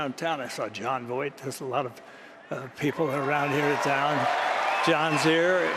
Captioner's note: applause